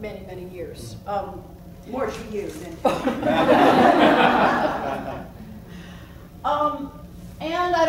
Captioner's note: laughs